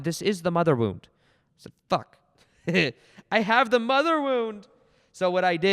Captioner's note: laughs